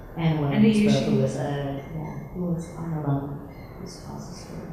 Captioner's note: women chattering